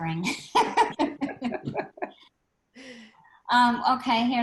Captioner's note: laughs